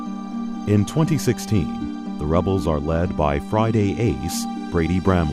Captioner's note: voiceover